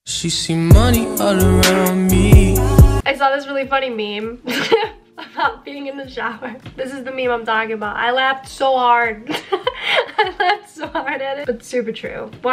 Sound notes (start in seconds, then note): 4.5 chuckles; 9.3 laughs